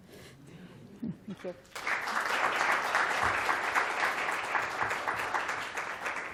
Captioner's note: applause